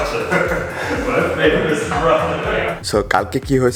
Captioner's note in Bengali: হাসি